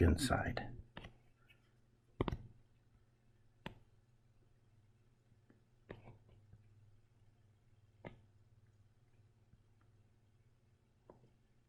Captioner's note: writing Sounds